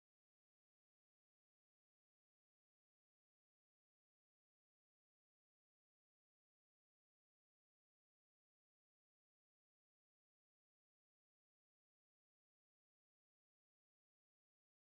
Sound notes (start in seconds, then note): none